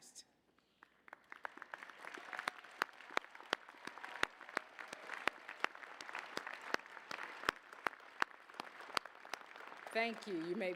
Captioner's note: applause